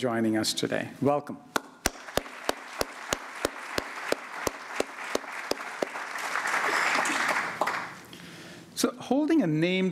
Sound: applause

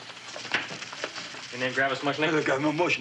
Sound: thumping

